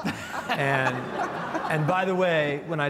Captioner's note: panel laughs